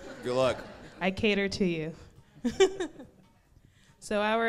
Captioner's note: laughs